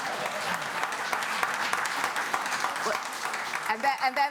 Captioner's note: applause